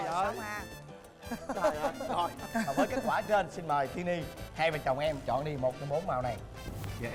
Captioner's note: MC laughing